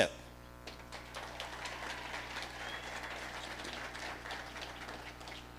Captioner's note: audience applauding